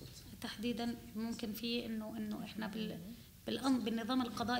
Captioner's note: speaking arabic